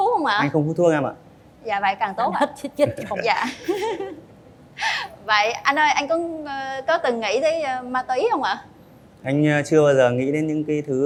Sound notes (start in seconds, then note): 2.9 laughter